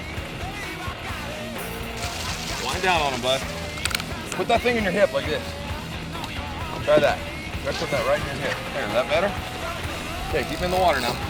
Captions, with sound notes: (murmuring) (exclaims) - There we go, great.